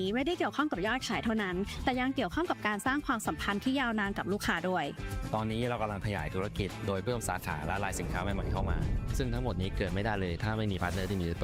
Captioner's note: speaking another language